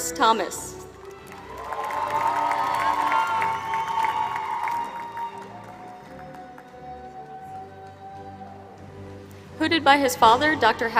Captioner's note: applause